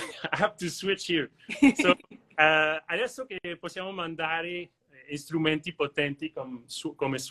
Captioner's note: speaks languages